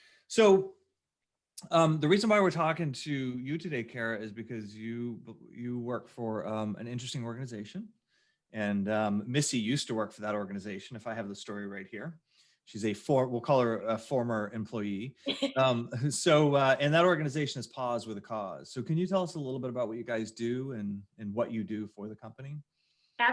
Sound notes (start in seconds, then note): 15.2 laughs